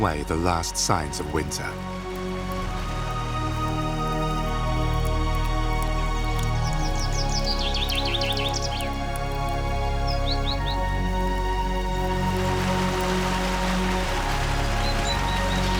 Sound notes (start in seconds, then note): 2.8 gentle music; 6.4 birds sing; 11.4 gentle music; 13.0 water sloshes